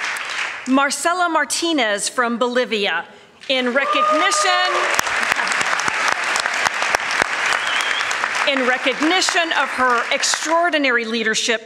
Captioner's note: applause and cheers